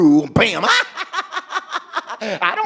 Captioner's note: laughing as Bimwili